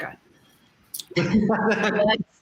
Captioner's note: laughter